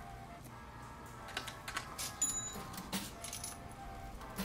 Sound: cash register opens

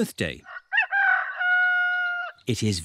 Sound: roster crows

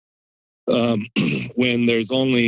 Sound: clears throat

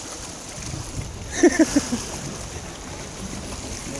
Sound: laughing

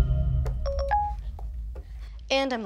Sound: alarm rings

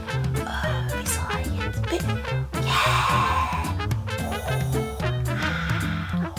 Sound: cheering

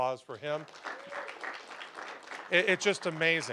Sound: applause

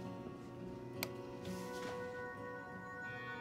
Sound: light switch clicks

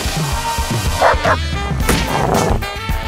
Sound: screaming; barking; growling

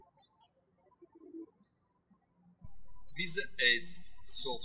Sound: birds chirping

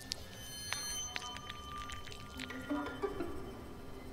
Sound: gross, slimy sound

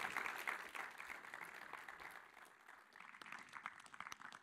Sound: applause

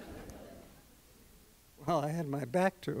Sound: laughter

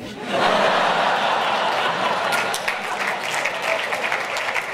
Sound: audience laughs and applauses

